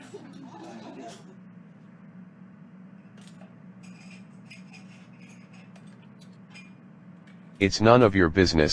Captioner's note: diner background sounds